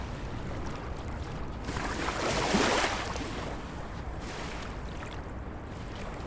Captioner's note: waves splashing ashore